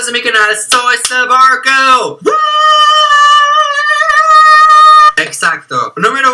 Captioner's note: cries of emotion